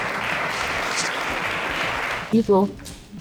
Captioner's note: clapping